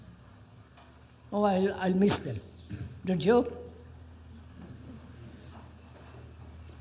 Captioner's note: laughter